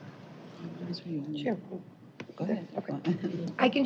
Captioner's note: indistinct chatter